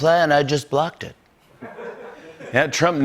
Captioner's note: laughter